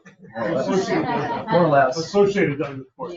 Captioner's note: people chuckle